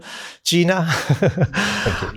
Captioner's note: chuckles